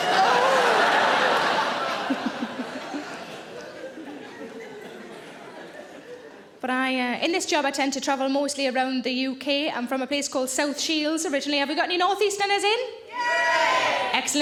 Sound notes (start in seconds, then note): 0.0 audience laughing; 2.0 Sarah chuckles